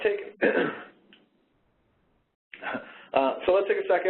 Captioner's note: coughs